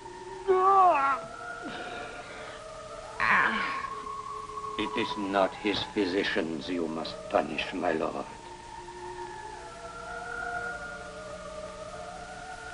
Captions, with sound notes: - No, Jamie! (crying) - It is not his physicians you must punish, my Lord.